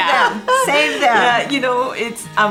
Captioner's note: laughs